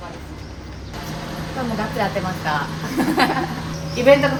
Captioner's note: laugh